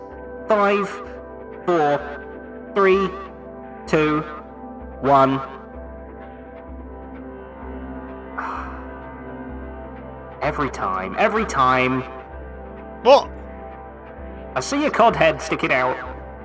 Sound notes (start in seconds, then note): 8.4 sighs